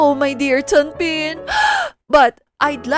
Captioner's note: gasp